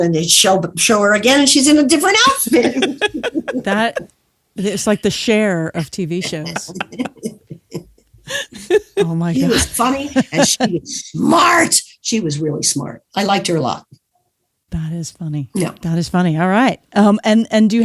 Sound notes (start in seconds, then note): 2.2 laughs; 2.3 chuckles